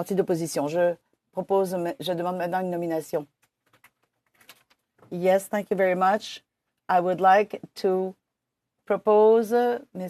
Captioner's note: speaking French